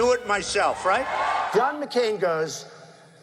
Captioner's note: crowd cheering